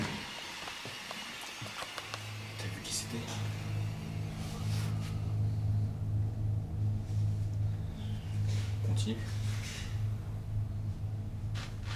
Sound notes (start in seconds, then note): 0.1 tense music continues; 2.6 speaks French